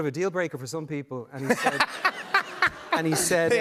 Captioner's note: laughter